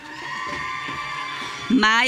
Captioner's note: audience cheering